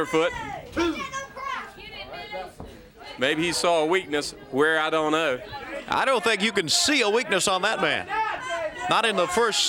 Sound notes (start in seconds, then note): 1.5 crowd chatter